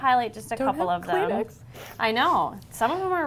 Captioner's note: sniffling